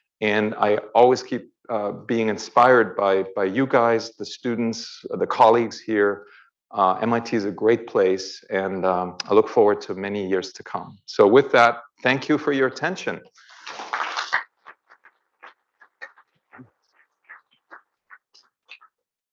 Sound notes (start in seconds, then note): 13.6 audience applauds